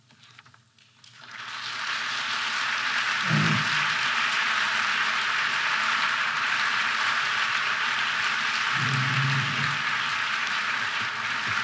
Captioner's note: applause